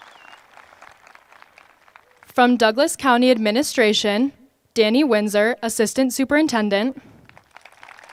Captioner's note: applause